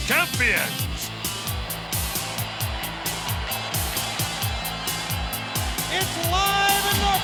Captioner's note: spectators cheering; upbeat music